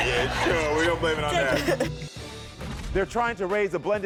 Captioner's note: laughs